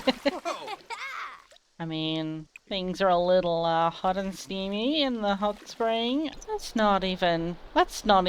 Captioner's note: laughter